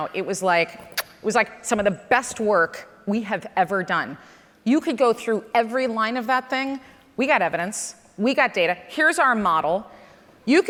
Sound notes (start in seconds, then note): none